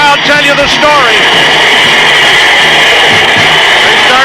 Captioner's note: crowd cheering